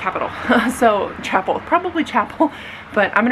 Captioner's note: laughs